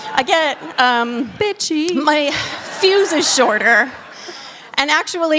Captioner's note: laughter